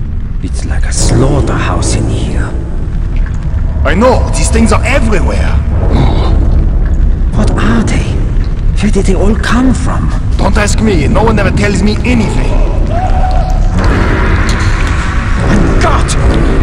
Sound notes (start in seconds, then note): 12.7 nazi screaming in pain from somewhere and dying